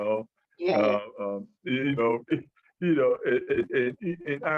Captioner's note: chuckles and continues speaking